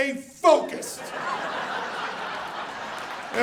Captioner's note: audience laughing